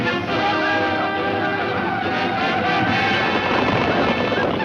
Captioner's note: chanting